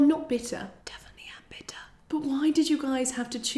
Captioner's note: whispers